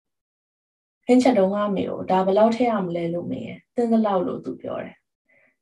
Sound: speaks in Burmese

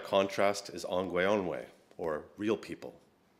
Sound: speaks another language

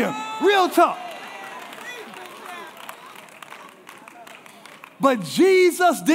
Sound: congregation applauding

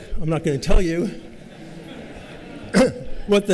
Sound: laughter

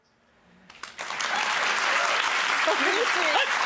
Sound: audience applauding

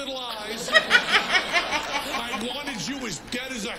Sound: laughs

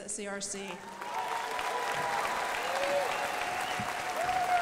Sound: crowd applauding

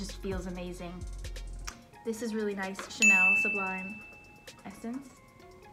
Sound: bell dings

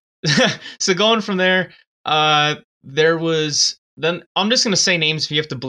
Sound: chuckles

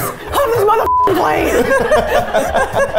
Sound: beep; laughing

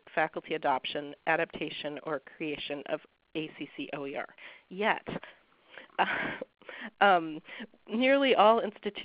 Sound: chuckles

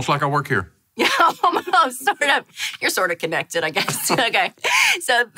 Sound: laughs

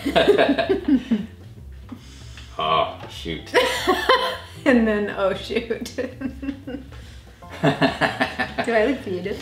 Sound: laughs

